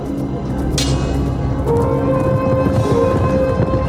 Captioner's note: clanking